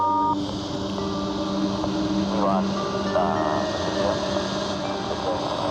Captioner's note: men chattering; radio crackling